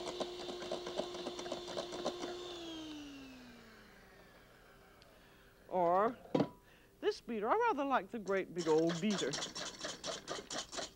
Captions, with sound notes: [ Whirring stops ] Or this beater. I rather like the great big old beater.